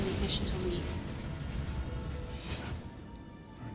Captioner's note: car explodes